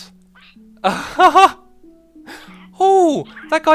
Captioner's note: exited laughter